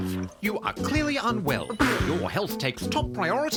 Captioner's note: coughs